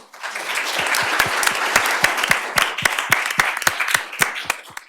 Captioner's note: applause